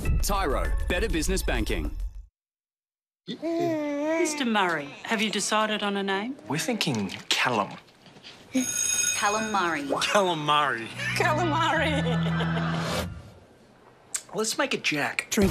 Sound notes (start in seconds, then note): 3.4 baby laughs; 8.6 bell rings; 10.8 laughs